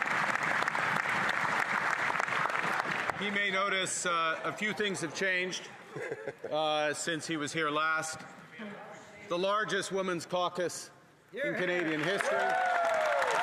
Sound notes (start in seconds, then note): 3.3 some Applause